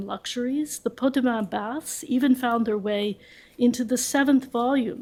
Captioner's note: french